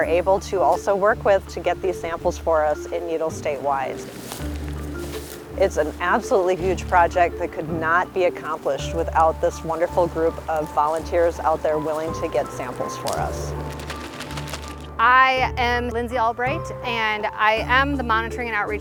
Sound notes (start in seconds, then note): 5.6 sound of walking through grass; 12.5 sound of shaking bag